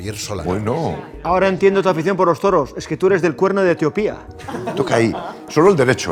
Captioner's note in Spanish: Risas